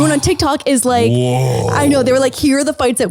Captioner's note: roars